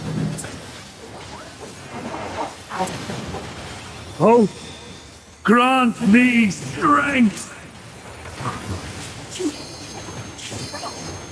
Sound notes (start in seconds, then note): none